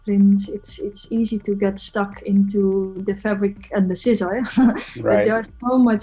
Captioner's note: chuckles